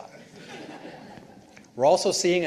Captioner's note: participants laughing